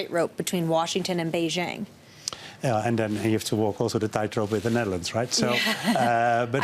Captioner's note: laughter